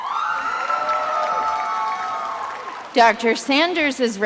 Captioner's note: attendees applauding and cheering